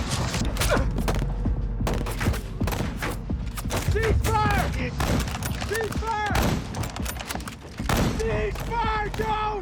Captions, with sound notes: [grunting] Cease fire, cease fire! Cease fire, Jones!